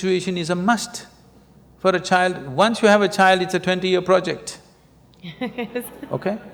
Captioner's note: laughter